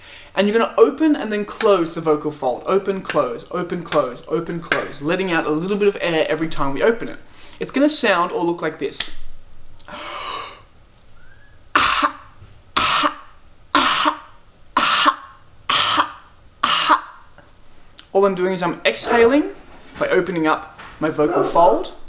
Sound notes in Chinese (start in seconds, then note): 9.8 吐氣